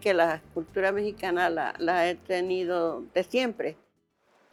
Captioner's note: speaking Spanish